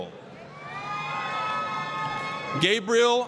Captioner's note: applause, cheering